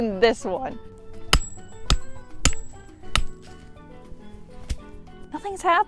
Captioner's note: hwack hwack hwack hwack, tiny hwack